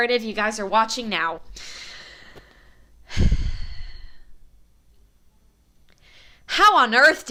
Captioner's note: breathes deeply